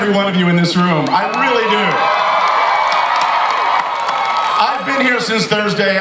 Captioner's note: audience cheers